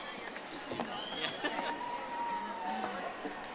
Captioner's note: audience applauding